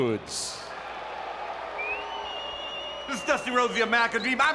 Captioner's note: applause